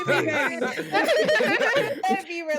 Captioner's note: laughter